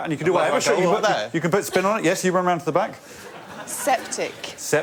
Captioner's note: laughter